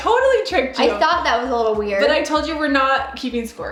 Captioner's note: none